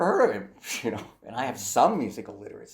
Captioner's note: lightly chuckles